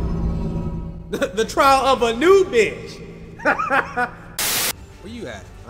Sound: ominous music; laughs; static

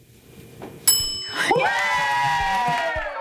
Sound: bell dings

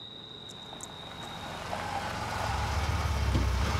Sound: car approaching

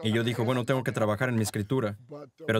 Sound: laughs

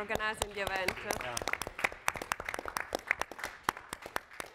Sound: applauding

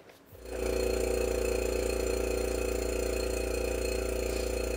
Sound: compressor buzzes

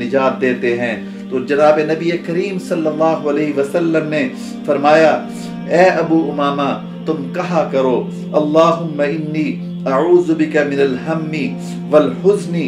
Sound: Arabic

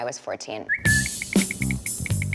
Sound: whistle

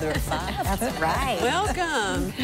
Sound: laughing

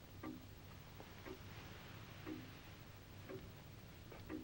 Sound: clock ticking

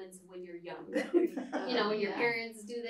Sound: laughter

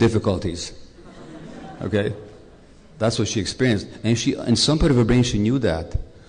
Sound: laughter

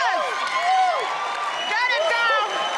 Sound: cheers

